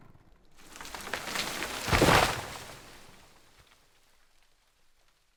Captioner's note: tree rustles